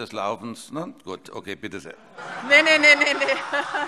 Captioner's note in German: Heiterkeit